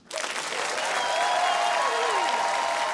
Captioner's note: applause, cheering